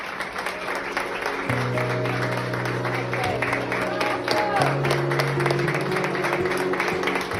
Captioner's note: applause; relaxing music